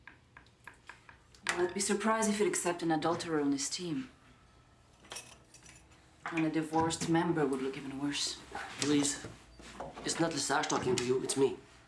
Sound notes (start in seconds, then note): none